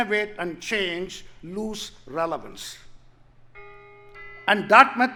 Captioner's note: bell tolling